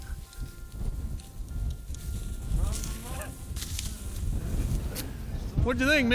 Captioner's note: gun fires